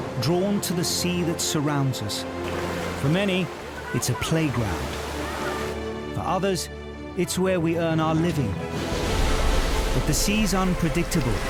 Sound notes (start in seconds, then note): 4.7 water whooshing; 8.6 waves crashing; 8.8 lighthearted music